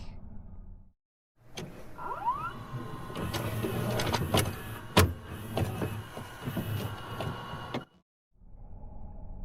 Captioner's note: VHS noises